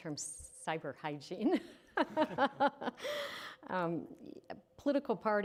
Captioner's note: chuckling